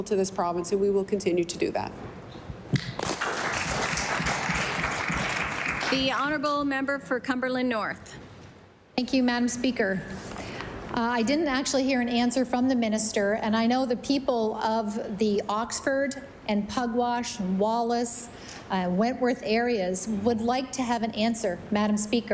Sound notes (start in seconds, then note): 6.7 applause